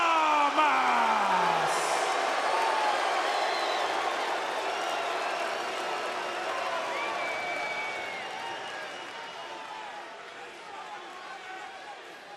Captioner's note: crowd cheering